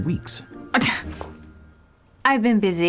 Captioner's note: scoffs